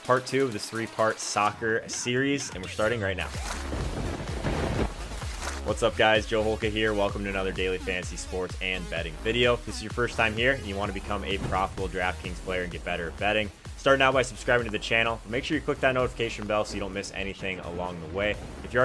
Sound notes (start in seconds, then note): 3.6 lightning striking; 3.8 energetic electronic music